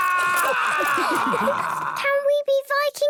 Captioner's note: all laughing